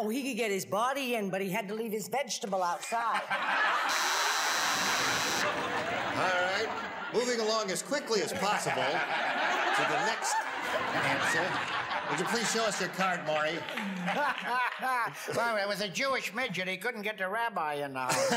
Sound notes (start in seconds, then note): 3.2 audience laughs; 3.8 buzzes; 8.6 audience laughs